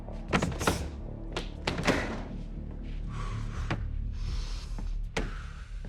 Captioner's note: breath hissing; strikes thudding